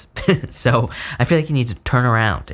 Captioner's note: giggles